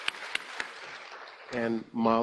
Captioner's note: applause